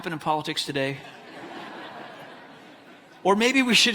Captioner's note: audience laughs